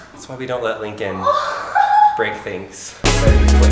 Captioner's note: whimpering; upbeat music